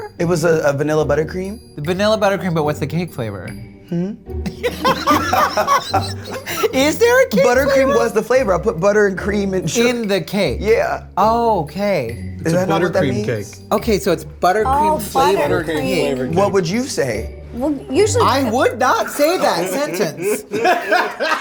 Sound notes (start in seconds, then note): 4.4 all laugh